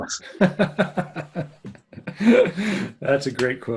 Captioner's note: laughing